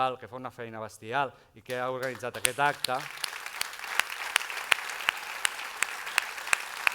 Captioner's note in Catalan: aplaudiments